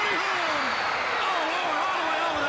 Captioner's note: crowd cheering